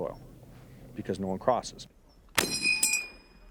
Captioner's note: voiceover